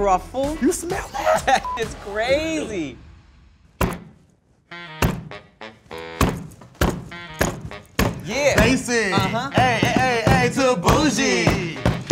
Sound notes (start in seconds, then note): 1.6 beep; 3.8 fist thwacking